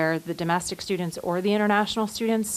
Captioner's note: nat pop of university sounds